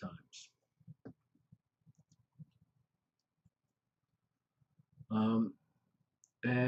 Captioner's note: pause